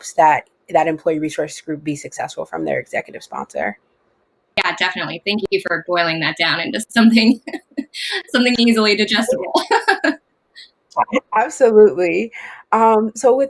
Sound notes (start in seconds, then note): 9.0 laughs